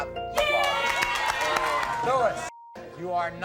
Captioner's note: crowd cheering